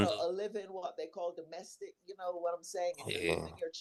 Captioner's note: hablando inglés